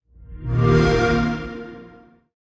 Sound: Xbox sound

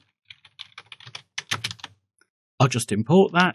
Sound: typing

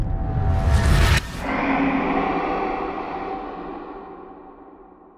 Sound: creature roar

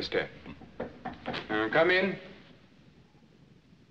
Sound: knocking

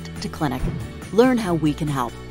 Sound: air whooshing

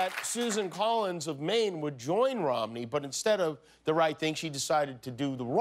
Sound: applause

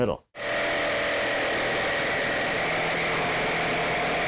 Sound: saw grinding

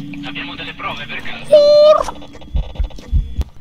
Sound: scared noises

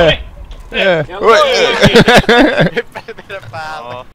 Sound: laughing

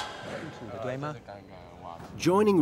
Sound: speaks in foreign language

